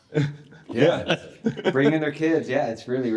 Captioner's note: everyone chuckles